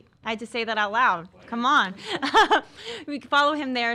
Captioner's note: laughs